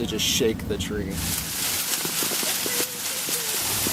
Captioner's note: rustling